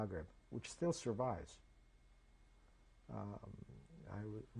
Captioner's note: pauses for 3 seconds